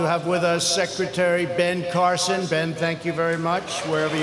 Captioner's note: applause